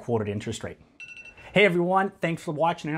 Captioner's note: alarm dinging